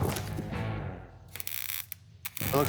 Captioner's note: torch sizzling